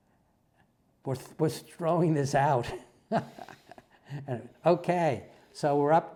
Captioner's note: laugh